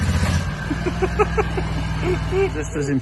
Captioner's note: laughing